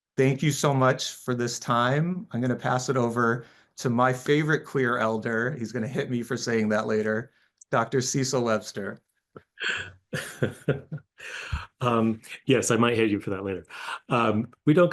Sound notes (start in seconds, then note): 10.1 laughs